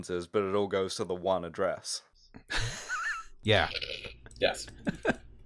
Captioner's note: laughter